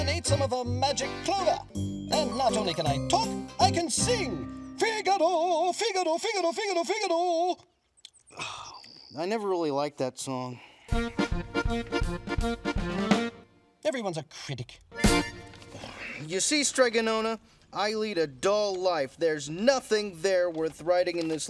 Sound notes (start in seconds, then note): 5.0 singing in foreign language; 8.3 sighs; 11.6 playful jingle